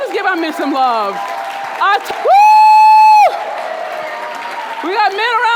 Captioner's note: audience cheering and clapping